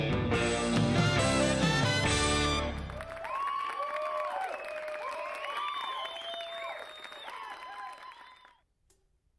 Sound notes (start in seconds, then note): 2.4 audience applauding; 2.6 audience cheering